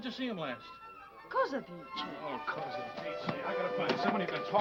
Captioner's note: speaking foreign language